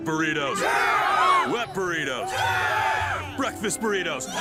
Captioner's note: mummies cheering